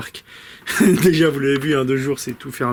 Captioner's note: laughs